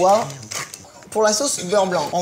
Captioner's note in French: Bruit poivrier